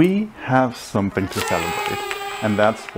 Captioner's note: party noisemaker; children cheering